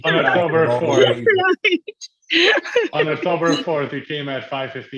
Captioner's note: laughing